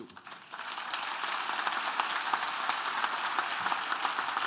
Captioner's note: applause